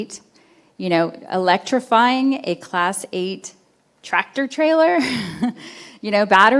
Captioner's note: chuckles